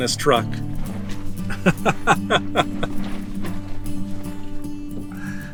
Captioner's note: laughter